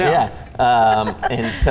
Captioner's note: laughs